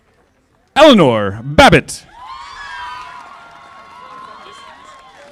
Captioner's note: audience applauding